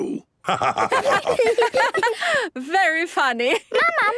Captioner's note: laughter